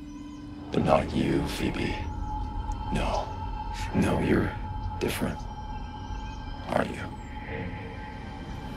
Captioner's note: demonic voice